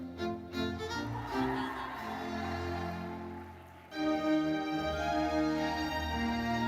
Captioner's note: audience cheering and applauding